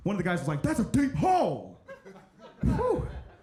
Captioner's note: audience chuckling